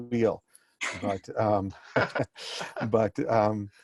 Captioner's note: laughing